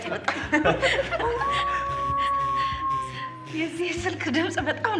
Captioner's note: phone Rings - Wolf Howl